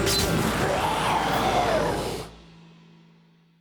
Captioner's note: growls